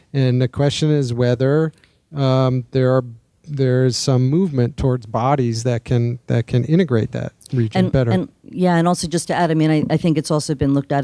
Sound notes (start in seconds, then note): none